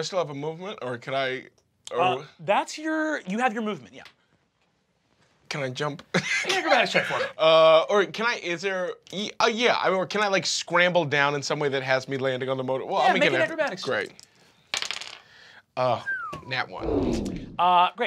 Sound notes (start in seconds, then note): 14.7 dice clack; 16.9 Kristen whistles